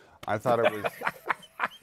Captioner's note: laughter